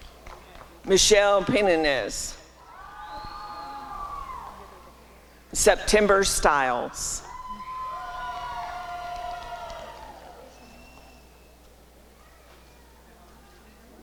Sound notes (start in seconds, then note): 2.0 applause and cheering; 7.4 applause and cheering